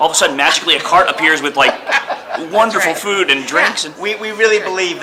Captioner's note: all laugh